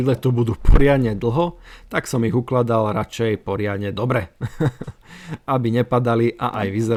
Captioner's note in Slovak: smiech